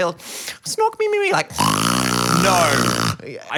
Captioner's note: snorts loudly